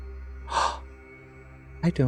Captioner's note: gasps